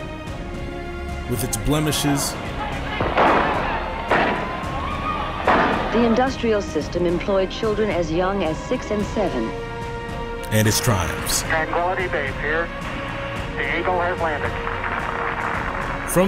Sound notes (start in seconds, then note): 2.9 gunshots; 13.7 audience applauding